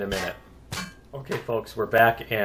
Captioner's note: pinging